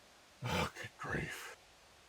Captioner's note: muttering